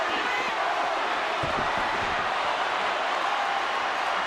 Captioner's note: crowd cheers